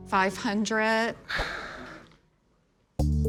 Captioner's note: Rick exhales